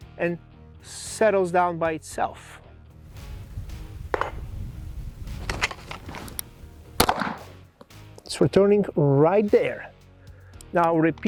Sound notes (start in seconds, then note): 5.4 holster rattles; 7.1 gun pops